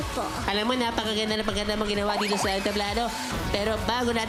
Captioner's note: in baby voice